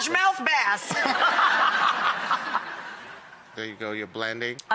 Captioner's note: laughing